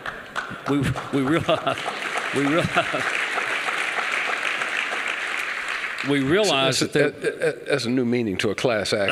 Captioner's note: applause